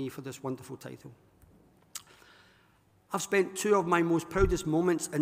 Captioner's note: none